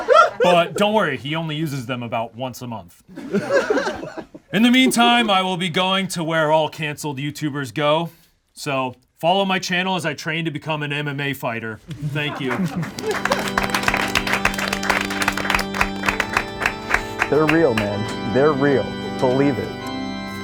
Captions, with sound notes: But don't worry, he only uses them about once a month. In the meantime, I will be going to where all canceled YouTubers go. So follow my channel as I train to become an MMA fighter. Thank you. (group claps) - They're real, man. They're real, believe it.